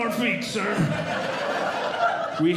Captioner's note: audience Laughing